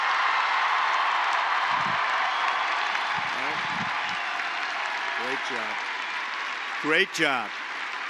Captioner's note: applause